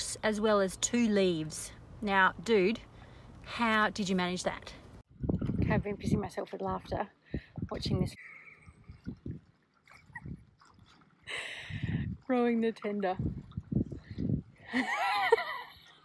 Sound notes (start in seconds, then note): 9.2 stifled giggle; 14.7 giggle